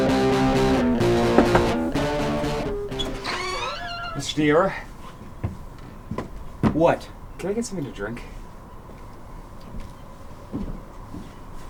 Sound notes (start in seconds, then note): 0.3 knocks; 3.2 door opens